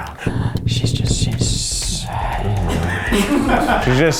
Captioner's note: crew laughs